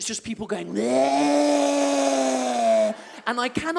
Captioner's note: zombie sound